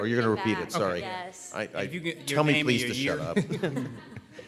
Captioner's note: laughter